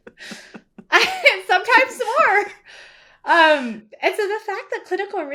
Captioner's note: laughing